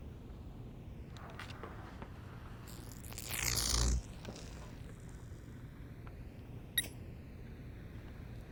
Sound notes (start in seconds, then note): 2.6 zapping and buzzing